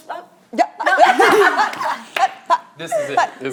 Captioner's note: laughing